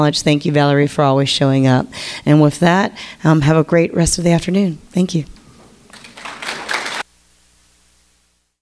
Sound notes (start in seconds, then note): 5.8 audience clapping